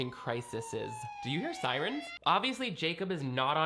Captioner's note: siren wailing